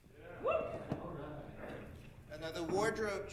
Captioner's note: audience member whooping